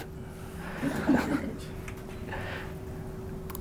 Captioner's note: laughs